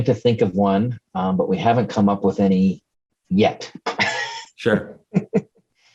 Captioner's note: laughs